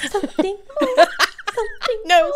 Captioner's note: laughing